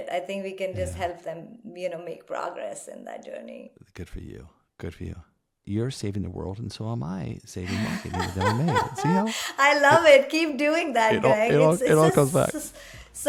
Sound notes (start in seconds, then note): 7.6 laugh